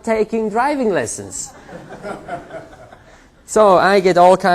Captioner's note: laughter